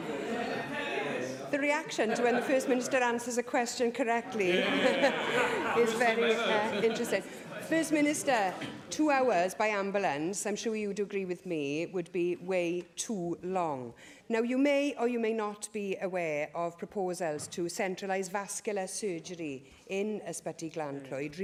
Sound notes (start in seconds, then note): 6.8 laughter